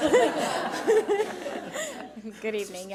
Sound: audience laughs

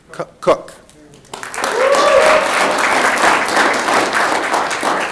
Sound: audience clapping

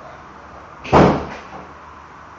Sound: door closing

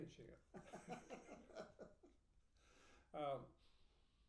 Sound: laughing

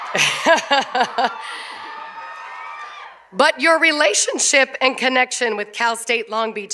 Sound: cheers and applause

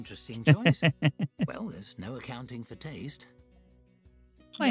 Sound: laughter

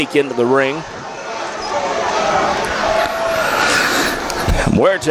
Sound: crowd cheers

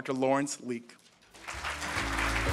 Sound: audience applauding; upbeat jazz music

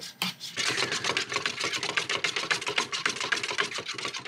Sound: stirring fast

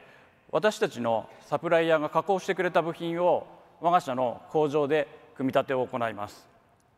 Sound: speaks in foreign language

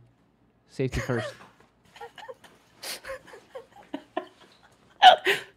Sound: laughing

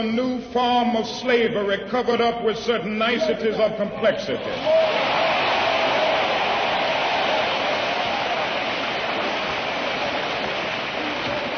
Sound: applause

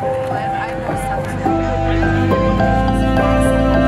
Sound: people chattering; upbeat music

